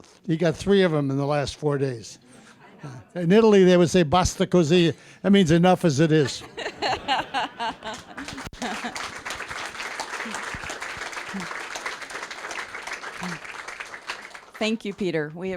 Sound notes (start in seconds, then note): 6.2 all laughing; 7.7 applause